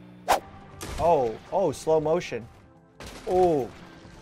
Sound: string plucking again; swooshing; gunshot; gunshot again

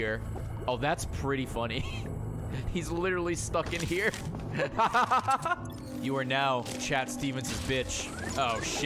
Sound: laughs

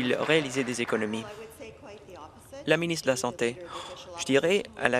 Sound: applause

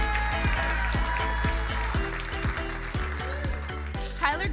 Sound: crowd applauding

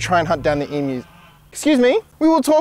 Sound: goose Honk

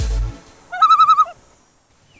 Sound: loon call

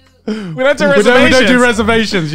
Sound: laughing

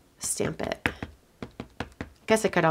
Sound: ink pad tapping

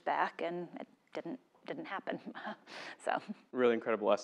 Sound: laugh

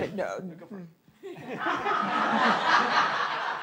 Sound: audience laughing

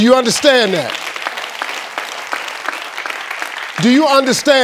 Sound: audience applauding

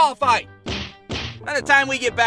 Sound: smack, Smack!

